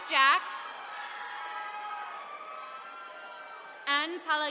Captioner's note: attendees cheering